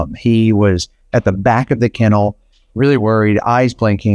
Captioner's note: none